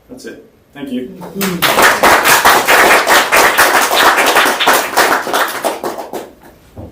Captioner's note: applause